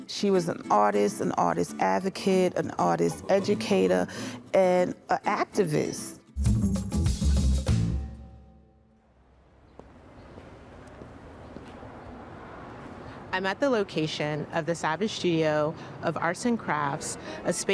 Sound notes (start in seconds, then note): 6.2 playful upbeat music; 11.4 footsteps thumping